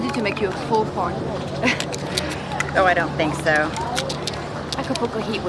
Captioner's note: chuckling